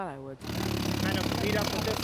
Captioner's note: mechanical drilling